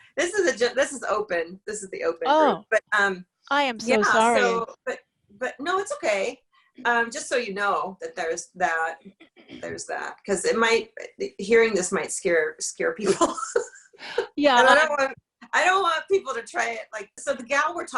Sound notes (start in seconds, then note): 13.0 laughs